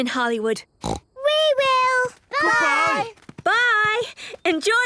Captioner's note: snort